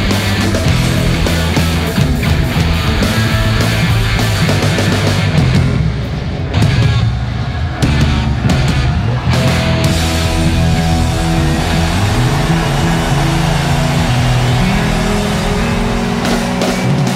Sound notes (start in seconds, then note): 11.1 audience applauds; 11.1 audience cheers